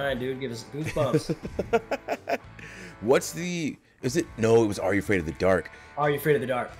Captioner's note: laugh